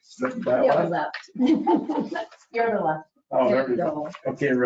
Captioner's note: laughing